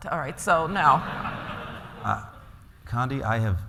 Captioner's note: laughter